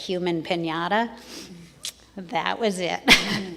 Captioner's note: crowd chuckles